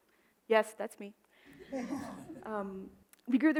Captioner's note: audience laughs